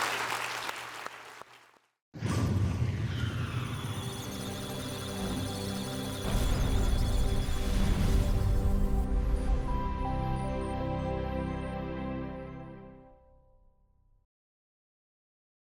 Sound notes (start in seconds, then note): 2.5 electronic sounds of data; 2.5 musical tones